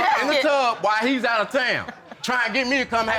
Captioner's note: chuckling